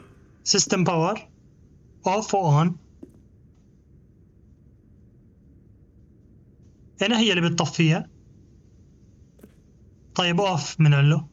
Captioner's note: roar